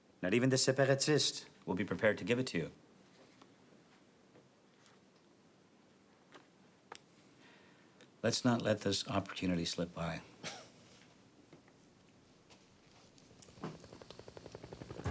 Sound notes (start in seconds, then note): 10.8 chuckles